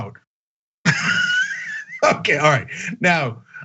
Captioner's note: laugh